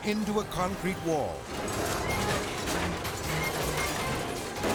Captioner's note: car banging